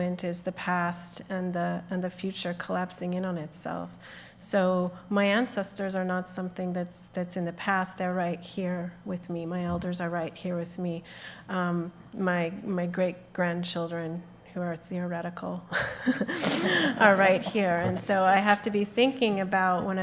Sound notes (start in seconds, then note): 15.8 chuckles